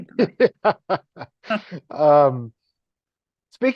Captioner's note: laughing